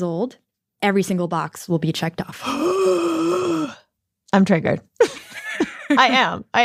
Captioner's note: gasps; laughs